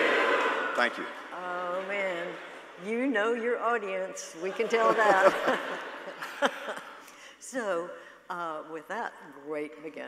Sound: laughter

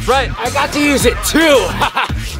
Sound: laughs loudly

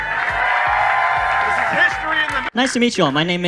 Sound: audience cheers

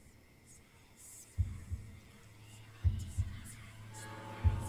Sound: eerie whispering

